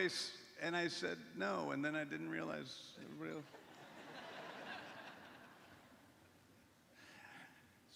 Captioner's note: laughter